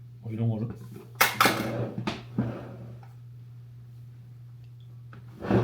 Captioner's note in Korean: 결국 우당탕